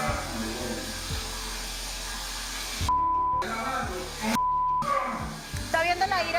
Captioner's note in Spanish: Bip